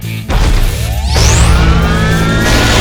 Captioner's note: sword whirring; sword crashes